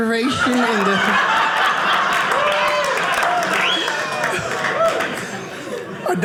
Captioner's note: audience laughing